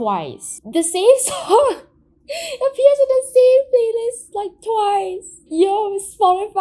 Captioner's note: laughs